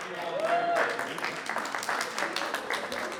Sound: applause

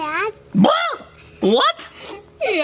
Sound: blubbering

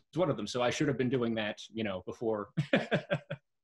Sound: laughs

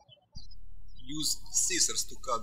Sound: birds chirping

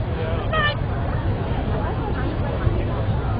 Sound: chatter

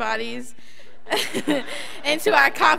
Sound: laughs

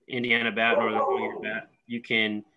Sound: dog barks

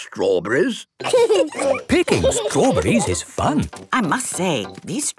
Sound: laughing

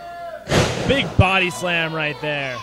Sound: thuds on mat

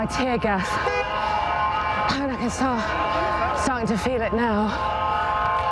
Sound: horn blaring; blaring continues, catches breath

